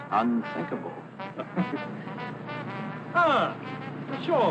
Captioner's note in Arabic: ضحك